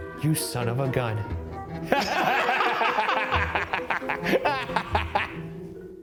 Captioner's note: laughing